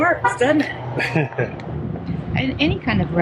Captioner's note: laughs